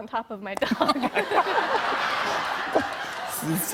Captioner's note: laughter